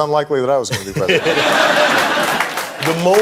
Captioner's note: audience laughing